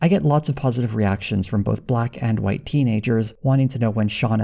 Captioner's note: none